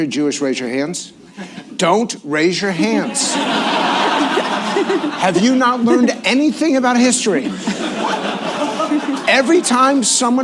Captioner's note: laughter; laughter